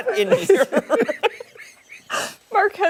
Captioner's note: laughter